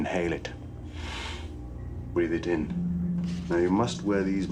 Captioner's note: inhales